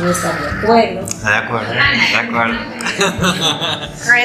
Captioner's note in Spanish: laughs